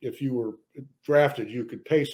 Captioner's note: none